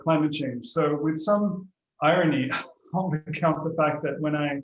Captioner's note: chuckles